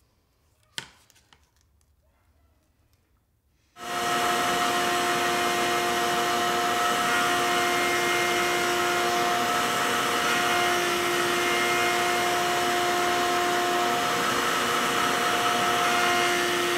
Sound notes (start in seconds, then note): 4.0 tool whirring